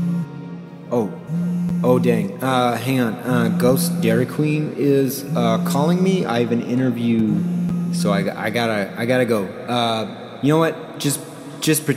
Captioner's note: phone rings